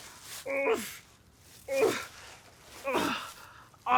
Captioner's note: Arawn groaning